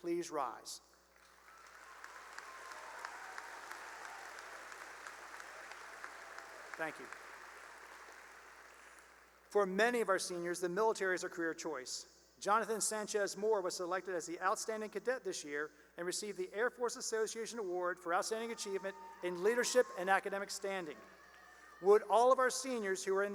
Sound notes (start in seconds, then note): 1.2 cheering and applause; 8.2 applause